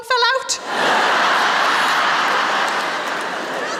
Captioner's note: laughter